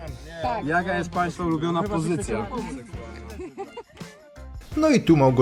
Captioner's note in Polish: śmiech